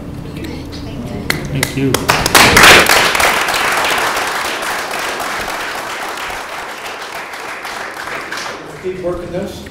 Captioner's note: applause